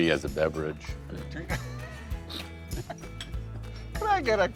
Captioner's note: laughs